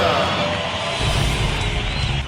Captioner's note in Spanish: Público Gritando y aplaudiendo